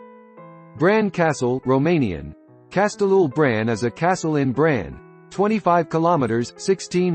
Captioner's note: in Romanian: Castelul Bran